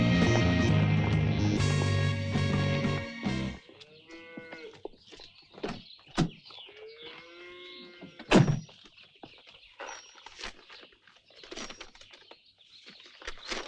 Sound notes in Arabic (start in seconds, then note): 4.7 خرير البقرة; 10.8 حفيف الورق